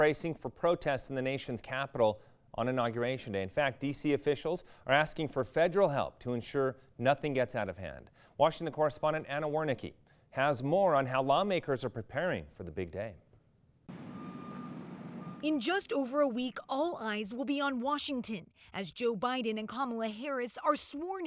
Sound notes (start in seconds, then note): 13.9 tractor reverse indicator ringing